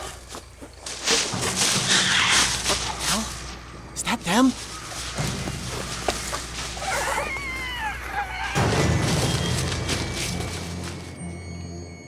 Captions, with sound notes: [ BRANCHES RUSTLING ] [ ANIMAL SHRIEKS ] WHAT THE HELL?! IS THAT THEM?! [ RUSTLING AND SHRIEKING ]